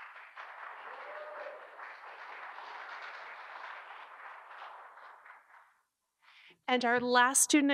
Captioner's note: audience Applause